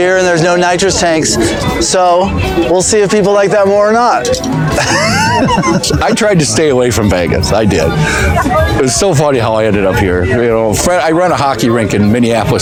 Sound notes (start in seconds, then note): 4.6 laughing